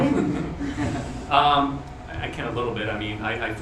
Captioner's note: laughing